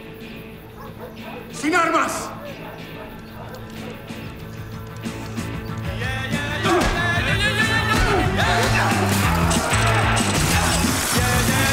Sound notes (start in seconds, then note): 0.0 barking; 1.5 speaking spanish; 8.0 fight noises